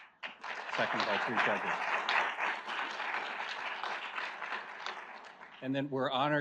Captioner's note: audience applauds